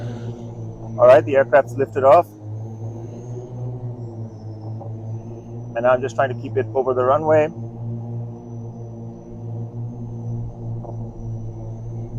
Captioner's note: motors hum